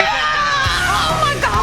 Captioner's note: screaming